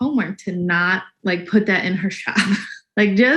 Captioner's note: laughs